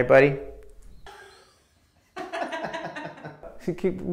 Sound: laughing

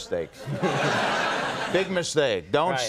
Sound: audience laughter

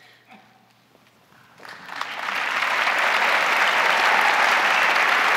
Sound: crowd applauding

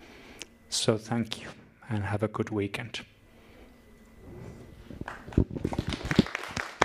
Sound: applause

